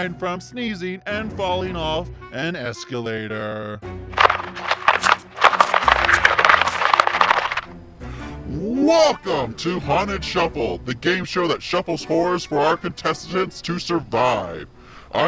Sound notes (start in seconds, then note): 4.1 cards shuffling